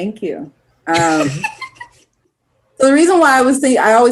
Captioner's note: laughs